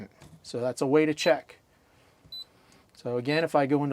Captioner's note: beeping